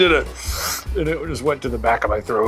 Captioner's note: slurps